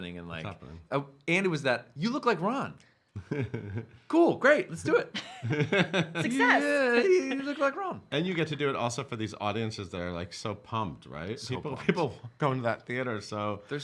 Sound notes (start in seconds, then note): 5.1 chuckling; 5.1 laughing